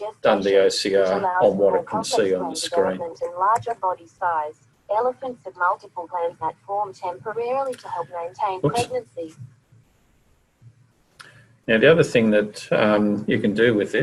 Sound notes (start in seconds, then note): 1.9 device heard reading aloud in female voice; 4.9 device continues to read